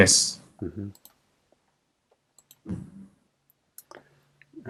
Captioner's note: mouse clicking